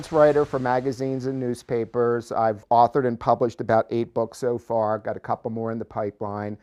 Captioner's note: waves crashing